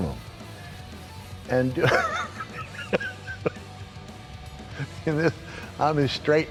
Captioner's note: laugh